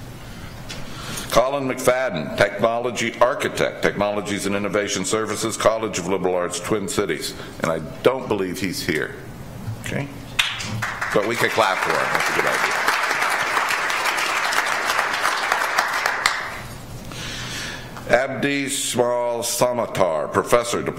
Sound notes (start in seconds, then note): 10.4 audience applauds